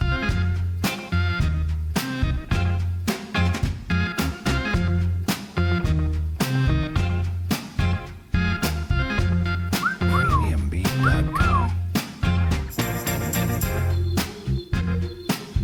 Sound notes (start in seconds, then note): 9.8 someone whistling; 12.2 groovy music